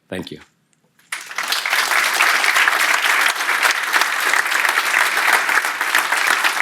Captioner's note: the audience applauds